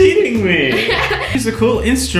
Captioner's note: laughing